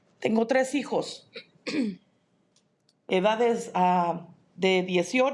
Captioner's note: speaking in Spanish